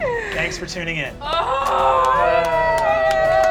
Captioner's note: cast cheering and applauding; groaning